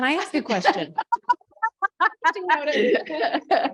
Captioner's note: laughter